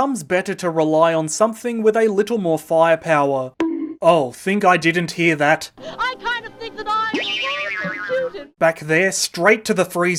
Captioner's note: bonk!; boing!